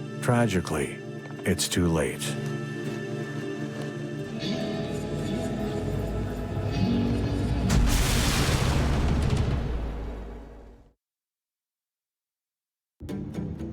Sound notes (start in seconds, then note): 0.0 intense music; 3.4 intense music; 7.4 thunderous explosion